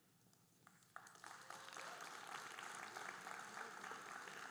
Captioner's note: audience applauding